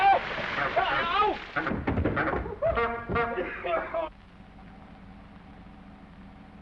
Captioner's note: Norman yelling; water splashing; Norman coughing; horn honking